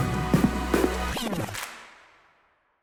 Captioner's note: record scratches